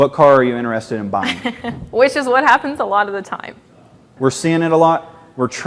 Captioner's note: laughs